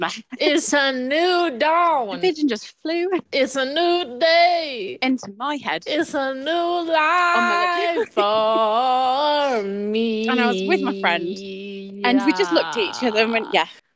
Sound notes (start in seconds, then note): 7.1 laughs